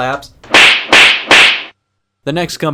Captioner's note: three slapping sounds